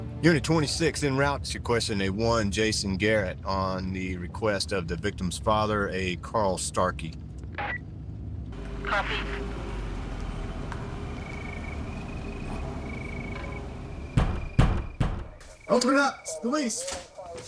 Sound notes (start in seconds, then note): 10.6 engine purring; 14.1 fist thudding